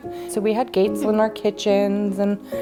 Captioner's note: chuckles